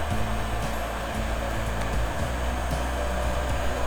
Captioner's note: heater blowing